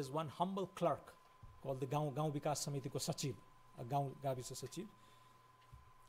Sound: foreign language

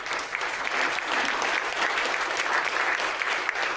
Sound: applause

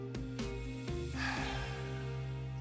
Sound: sighs

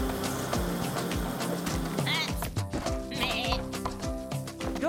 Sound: bleating

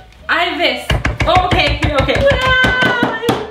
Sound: hammering

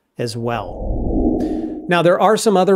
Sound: air whooshing

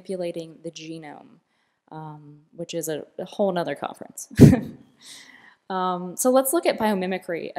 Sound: laughter

